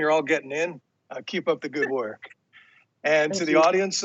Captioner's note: chuckles